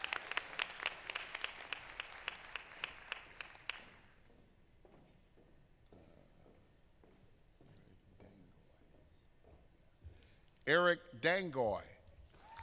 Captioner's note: applause